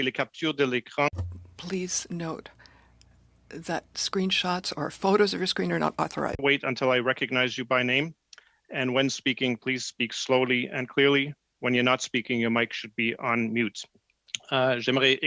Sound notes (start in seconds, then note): 4.9 speaking French